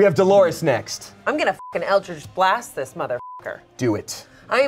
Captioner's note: beep